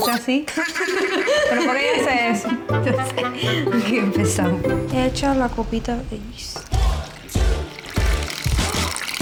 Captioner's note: laughs